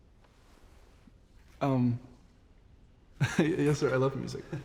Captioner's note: chuckles